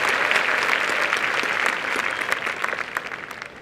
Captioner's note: applause